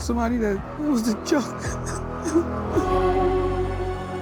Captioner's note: crying